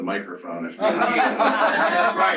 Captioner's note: laughter